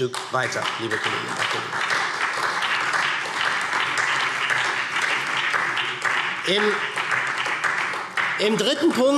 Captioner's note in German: Beifall SPD